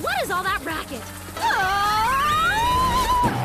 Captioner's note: screaming